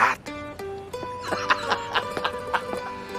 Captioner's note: laughs